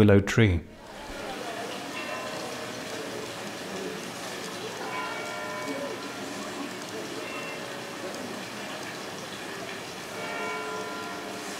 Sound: sound of water and church bells in the distance

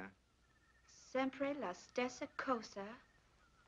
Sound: Italian spoken audio

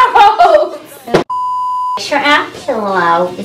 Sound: laughs; beeps

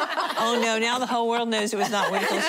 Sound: laughing

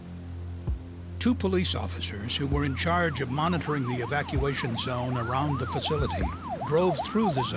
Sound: sound of sirens

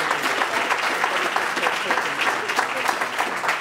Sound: applause

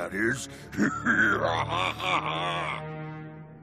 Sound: laughing

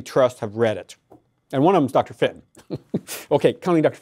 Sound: laughs

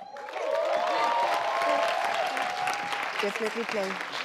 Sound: audience cheers

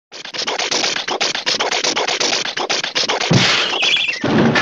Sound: car sputtering noises

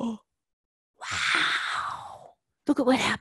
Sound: whispering

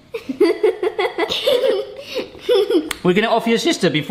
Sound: girls laughing

